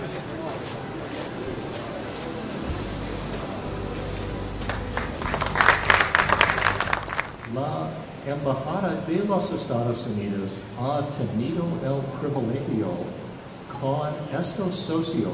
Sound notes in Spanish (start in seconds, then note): 4.6 Aplausos